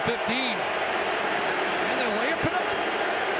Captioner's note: applause